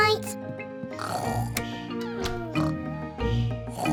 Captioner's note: both snoring